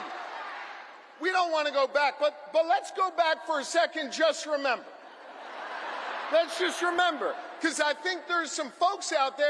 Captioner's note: crowd chanting